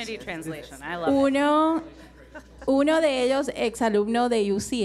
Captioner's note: speaking in foreign language